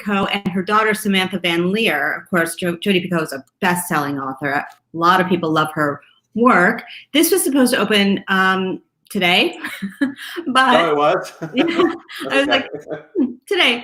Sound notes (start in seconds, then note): 9.6 laughs